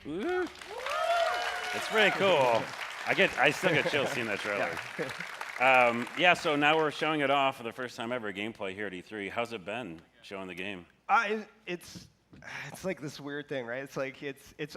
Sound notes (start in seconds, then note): 4.4 applause